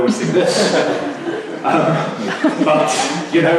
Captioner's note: laughter